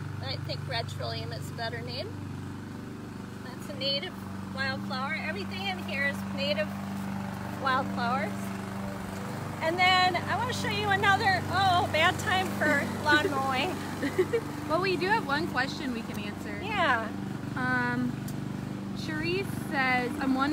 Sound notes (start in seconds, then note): 11.4 lawn mower sound